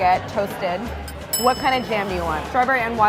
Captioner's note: bell dinging